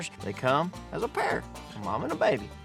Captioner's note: none